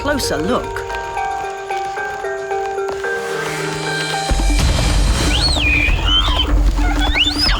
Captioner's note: dramatic music; squealing